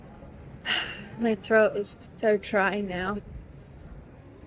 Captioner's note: exhales loudly